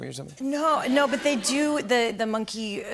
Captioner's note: laughter